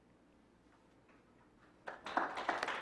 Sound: clapping

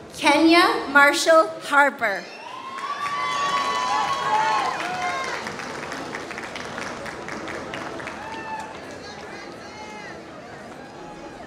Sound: applause

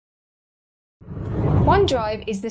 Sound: air whooshes

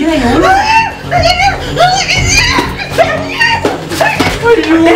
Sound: yelling and shouting

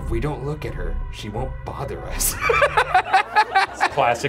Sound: laughing

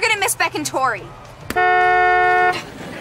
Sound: honking

